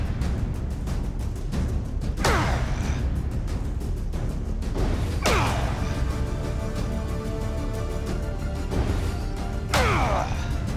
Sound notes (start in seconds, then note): 2.2 grunt; 5.2 grunt; 9.8 grunt